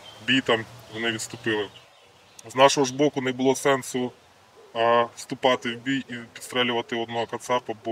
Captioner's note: russian